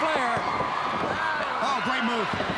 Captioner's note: crowd cheering